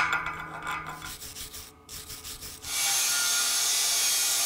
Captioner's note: sandpaper scraping; saw grinding and buzzing